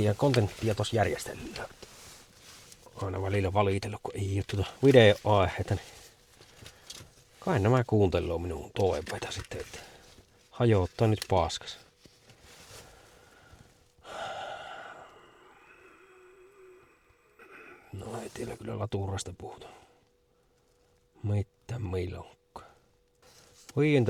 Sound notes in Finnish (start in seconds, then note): 14.0 huokaus